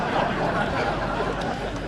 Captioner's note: audience Laughter